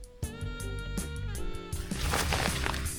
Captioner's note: scratching